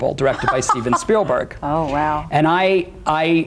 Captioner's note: laughs